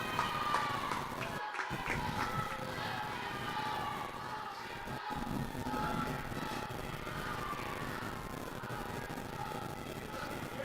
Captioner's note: protestors chanting